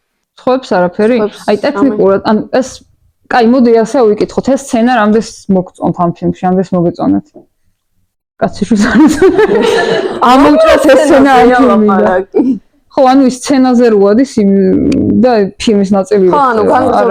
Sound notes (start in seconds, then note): 8.9 audience laughter